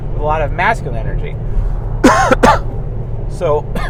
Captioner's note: coughs